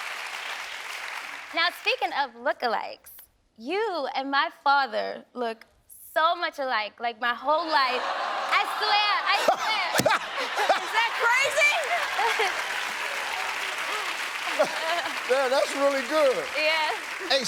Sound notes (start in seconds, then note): 0.0 audience applauding; 9.3 laughs; 11.5 audience applauding; 12.2 chuckling